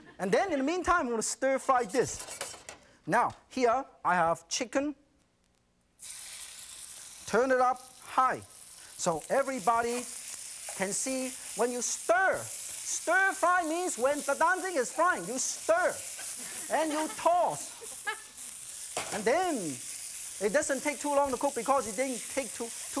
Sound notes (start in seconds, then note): 5.1 chicken sizzles